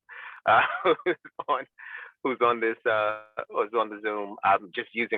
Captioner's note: laughs